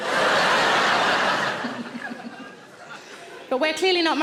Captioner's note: audience laughs; laughs